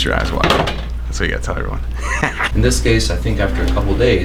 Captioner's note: laughs